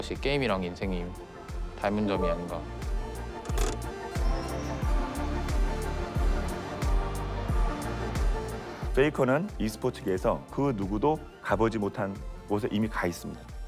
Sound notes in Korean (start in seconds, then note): 3.4 핸드 브레이크 소리